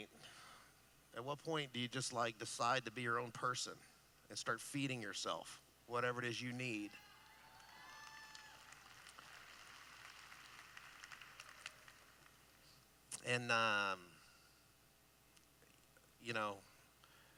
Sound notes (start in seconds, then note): 7.1 applause